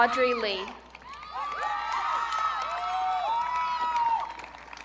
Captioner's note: audience cheering